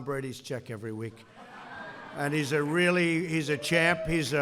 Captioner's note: laughter